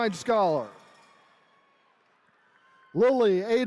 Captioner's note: attendees cheering